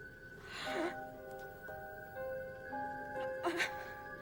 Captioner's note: tense music continues; Louise gasping